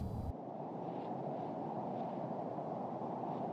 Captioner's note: wind blows